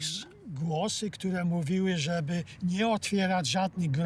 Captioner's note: in Polish